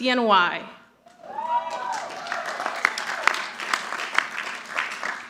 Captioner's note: audience applauding